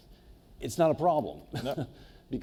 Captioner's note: laughs